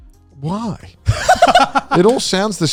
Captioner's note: both laugh